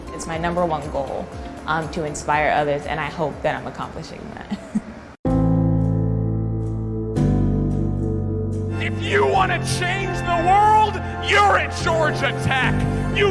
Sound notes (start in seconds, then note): 4.4 giggles; 5.2 soft music